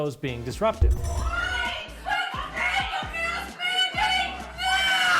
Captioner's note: crowd shouting "End the mask mandate now!